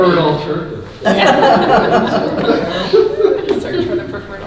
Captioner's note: laughing